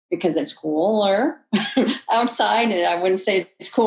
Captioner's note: chuckles